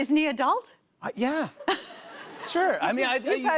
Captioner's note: laughter